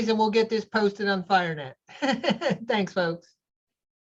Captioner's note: laughs